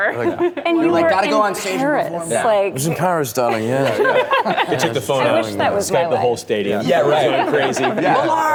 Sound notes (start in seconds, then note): 0.2 laughter; 3.5 laughs